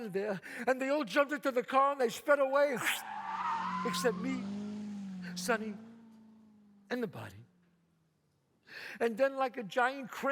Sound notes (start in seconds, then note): 2.6 tires squeal